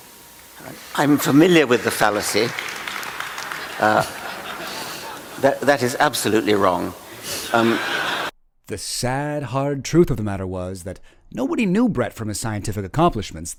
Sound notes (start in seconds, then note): 7.5 audience laughter